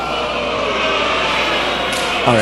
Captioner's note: uproar